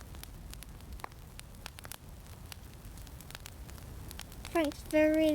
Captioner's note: fire crackling